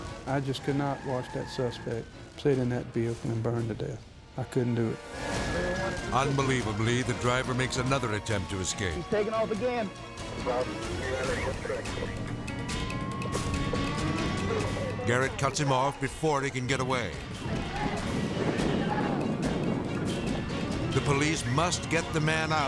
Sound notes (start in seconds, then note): 10.8 officers speak over radio; 10.8 sirens wailing; 18.1 all shouting